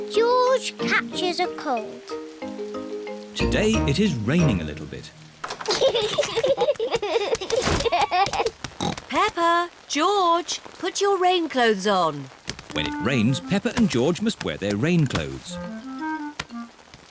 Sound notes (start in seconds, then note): 5.6 both giggling; 8.8 oinks